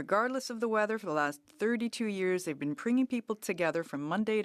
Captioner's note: speaking French